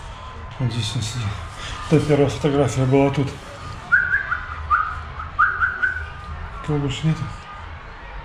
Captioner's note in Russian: Свистит